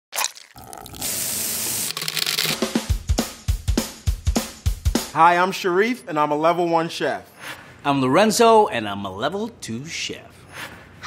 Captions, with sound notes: [cracking and pouring] [sizzling] [upbeat drumbeat] - Hi, I'm Shariff, and I'm a Level 1 chef. - I'm Lorenzo, and I'm a Level 2 chef.